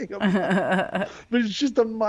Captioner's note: laughing